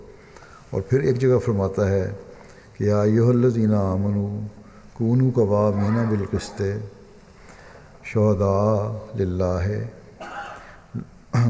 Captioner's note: Arabic